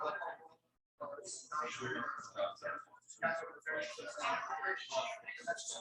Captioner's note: people chattering indistinctly